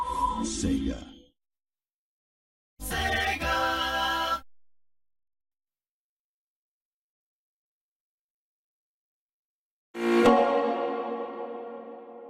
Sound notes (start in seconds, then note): 5.8 silence; 10.0 digital synth music plays